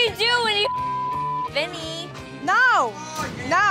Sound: beep

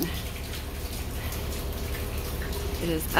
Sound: water dripping

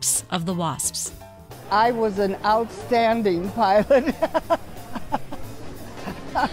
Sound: laughs

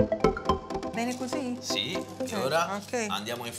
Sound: italian

